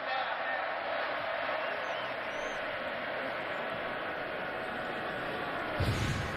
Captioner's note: whistle blowing